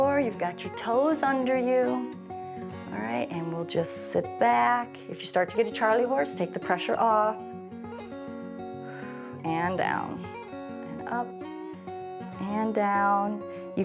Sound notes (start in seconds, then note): 8.8 exhales